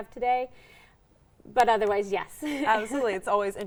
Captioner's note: laughing